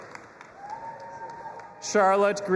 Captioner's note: audience applauding and cheering